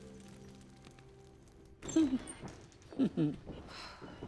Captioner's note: chuckles